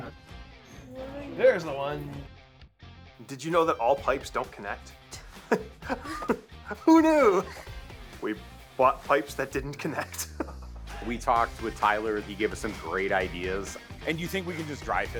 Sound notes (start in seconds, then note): 5.2 chuckles; 9.7 laughs